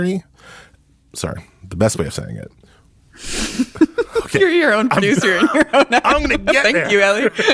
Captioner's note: laughs